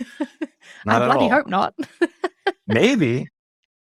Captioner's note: laughs